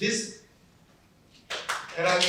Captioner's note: applause